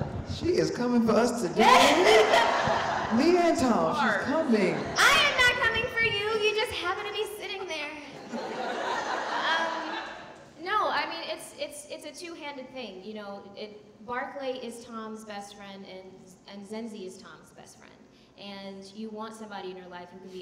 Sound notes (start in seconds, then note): 8.2 audience laughing